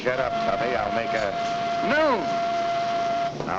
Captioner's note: whistle blowing